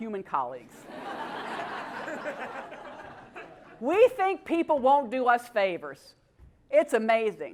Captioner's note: laugh